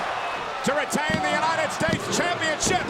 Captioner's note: body thudding; hands thudding